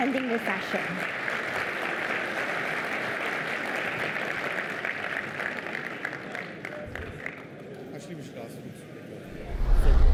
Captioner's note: applause